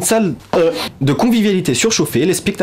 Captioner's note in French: cri indéfinissable